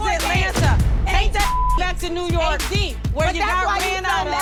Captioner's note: beep